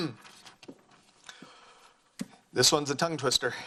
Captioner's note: clears throat